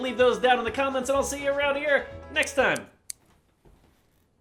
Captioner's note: snip snip snip